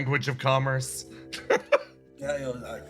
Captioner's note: laugh